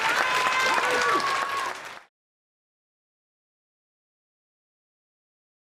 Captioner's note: applause